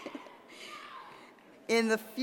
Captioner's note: laugh